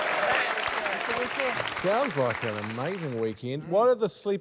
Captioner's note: cheering, applause